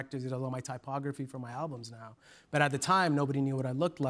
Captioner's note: none